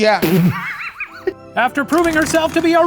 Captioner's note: laughing